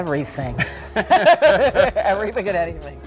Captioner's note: laughter